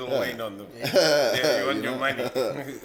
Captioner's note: laughs